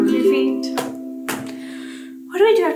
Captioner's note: feet stomping